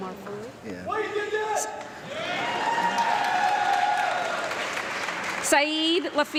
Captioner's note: man in audience yelling and cheering